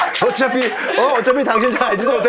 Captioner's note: weeping